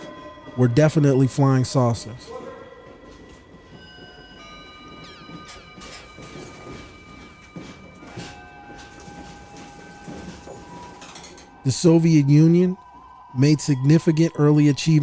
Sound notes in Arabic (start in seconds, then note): 3.7 قعقعة القطار